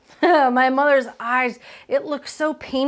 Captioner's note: laughs